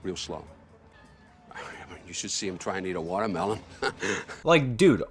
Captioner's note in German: lacht